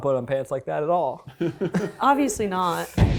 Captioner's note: laughs